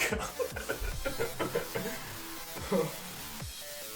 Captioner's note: laughing